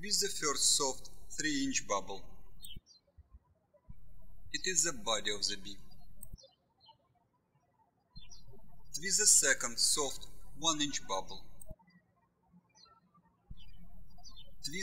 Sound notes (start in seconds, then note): 7.0 birds chirping; 12.4 birds chirping